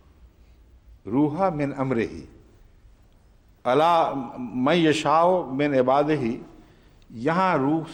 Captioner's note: Arabic